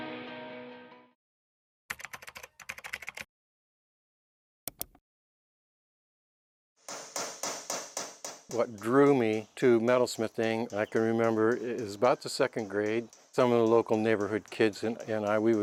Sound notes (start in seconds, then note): 1.9 keyboard taps; 4.7 mouse clicks; 6.8 tool taps